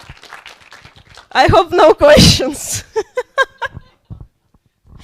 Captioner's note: laughs